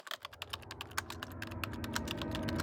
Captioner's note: typing